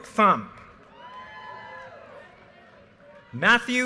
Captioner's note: audience cheers and applause